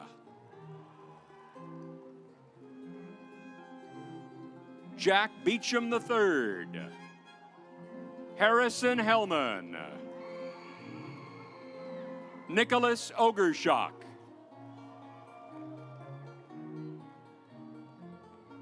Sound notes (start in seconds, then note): 0.2 stately music; 7.1 stately music; 9.9 audience applauds; 14.2 stately music